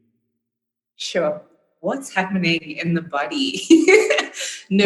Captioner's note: laughing